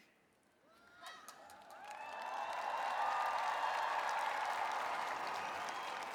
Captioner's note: applause